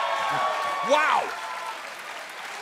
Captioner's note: crowd cheering